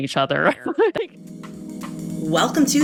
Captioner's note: laughs